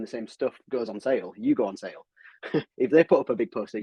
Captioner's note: chuckles